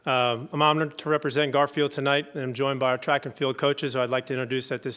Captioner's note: none